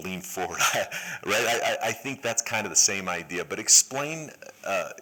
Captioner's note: laughter